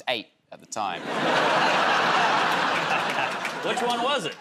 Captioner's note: laughter